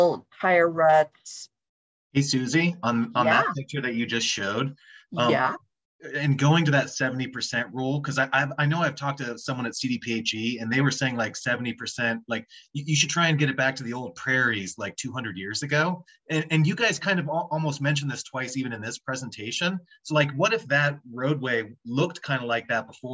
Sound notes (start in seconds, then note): 4.9 talking